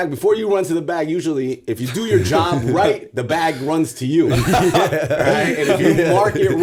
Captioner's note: laughter